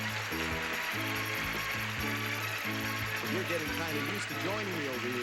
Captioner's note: audience applauding